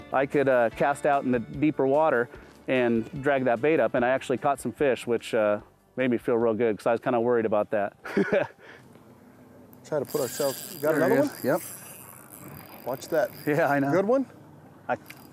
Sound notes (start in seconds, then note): 8.0 laughs